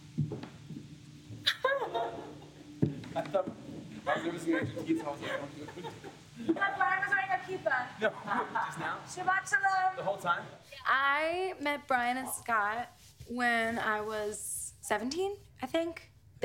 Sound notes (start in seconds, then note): 1.5 laughs; 6.7 speaks Hebrew